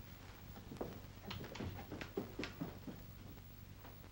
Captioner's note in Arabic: خطوات أسفل الدرج